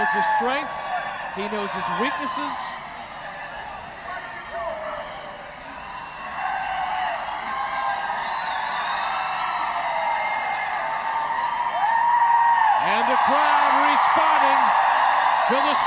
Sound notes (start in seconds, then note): 4.2 yelling; 6.5 crowd cheering